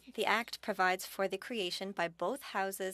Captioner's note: speaking French